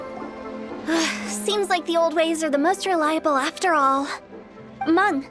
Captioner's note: sigh